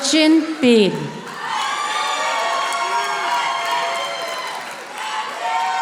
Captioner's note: audience applauding